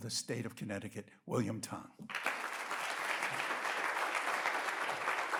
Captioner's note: audience applauds